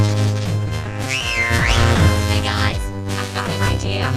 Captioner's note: whistling